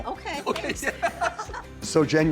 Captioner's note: laughing